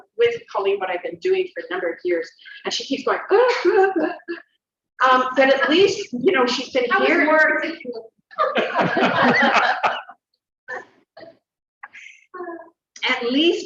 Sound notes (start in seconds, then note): 8.3 interruption & laughter